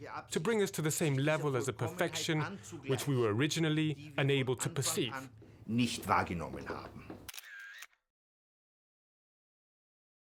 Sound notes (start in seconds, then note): 5.8 speaking German